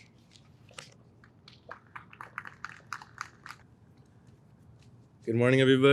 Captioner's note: audience applauds